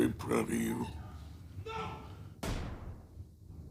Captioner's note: loud thud